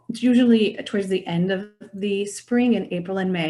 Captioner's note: none